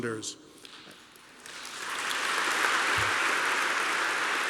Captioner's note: applause